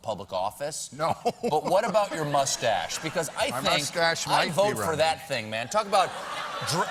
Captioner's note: cheers and applause